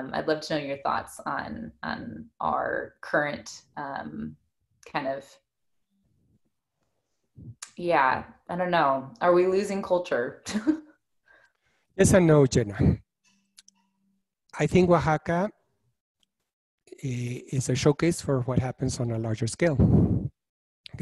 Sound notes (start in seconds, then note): 11.2 giggles